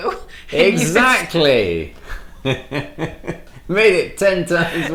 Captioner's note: laughs